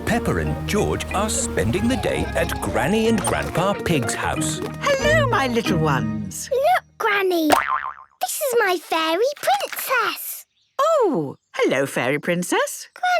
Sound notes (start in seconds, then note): 7.5 boing!